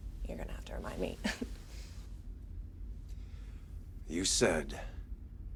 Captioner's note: Ava chuckles